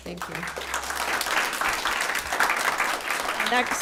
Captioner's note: applause